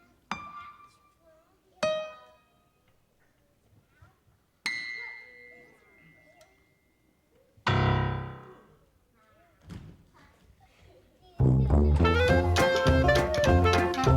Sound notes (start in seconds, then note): 0.3 piano notes sounding; 9.7 body thuds; 11.6 upbeat music